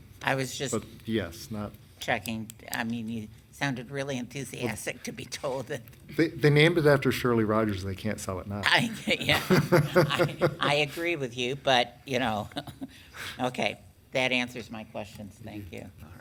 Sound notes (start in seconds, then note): 9.2 laughing